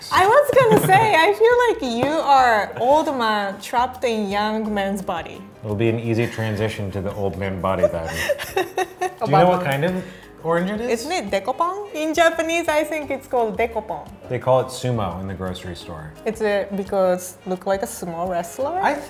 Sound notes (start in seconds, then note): 7.8 laughing